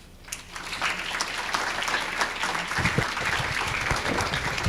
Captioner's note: applause